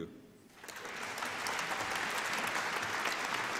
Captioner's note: applause